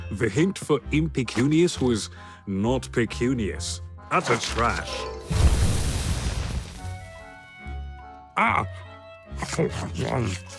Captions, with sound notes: The hint for “impecunious” was... “Not pecunious.” Utter trash! [fire roars] Ah! [frantic munching]